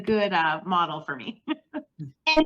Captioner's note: laughs